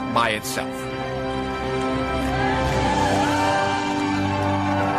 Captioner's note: cheering